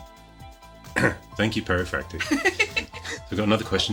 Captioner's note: clears throat